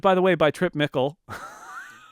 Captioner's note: laughs